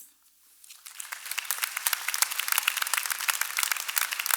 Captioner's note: applause